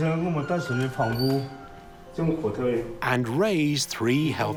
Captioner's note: speaking Chinese dialect